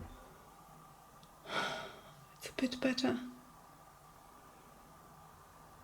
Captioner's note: sigh